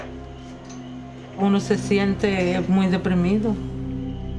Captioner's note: woman speaking Spanish